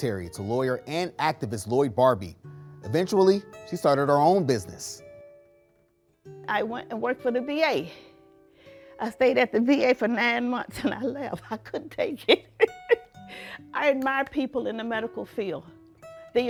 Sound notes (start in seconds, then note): 12.2 laughs